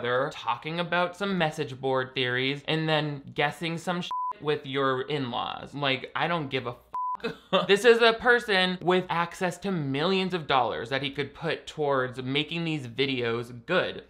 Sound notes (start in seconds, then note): 4.0 beep; 6.9 beep